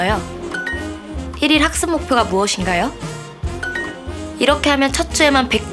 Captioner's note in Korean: 진지하게